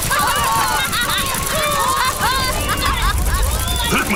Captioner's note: laughs